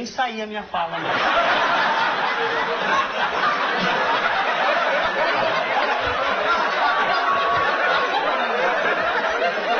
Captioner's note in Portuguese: risos